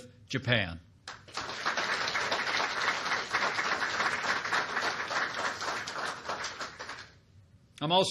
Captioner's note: applause